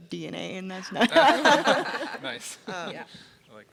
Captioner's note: people laugh